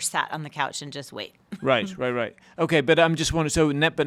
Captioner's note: laughing